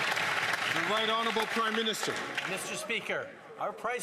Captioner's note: some Applause